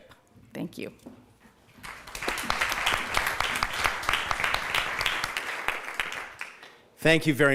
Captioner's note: applause